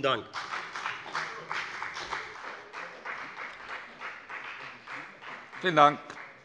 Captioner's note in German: Beifall bei der FDP